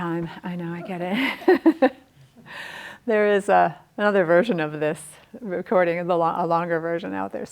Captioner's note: chuckles